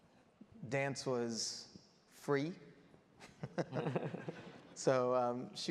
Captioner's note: laughs